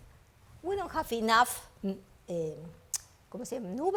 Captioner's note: speaks foreign language